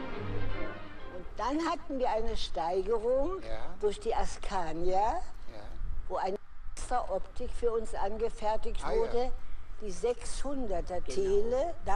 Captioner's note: foreign language